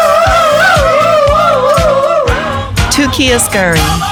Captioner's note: cheering